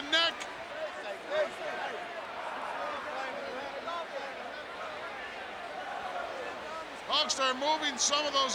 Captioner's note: applause